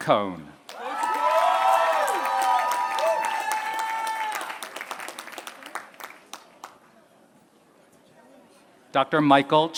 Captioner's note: applause